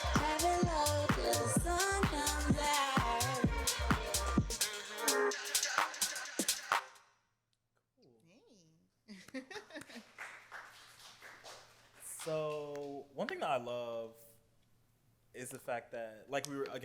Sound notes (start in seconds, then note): 9.1 laughs; 9.8 applause